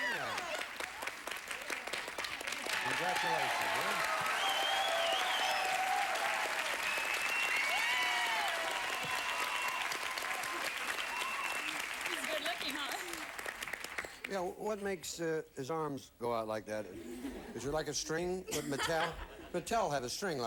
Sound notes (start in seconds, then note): 5.1 audience applauding; 14.9 audience laughing